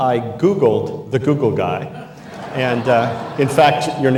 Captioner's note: all laugh